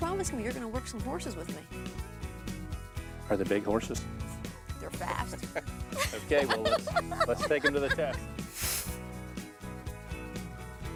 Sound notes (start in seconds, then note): 5.9 laughs